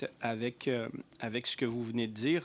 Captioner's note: speaking French